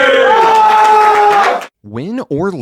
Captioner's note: yelling and cheering